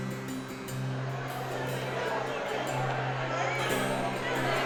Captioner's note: bright music; crowd chattering